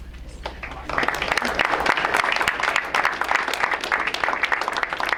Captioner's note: crowd applauds